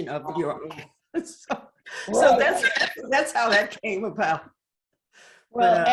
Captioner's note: laughs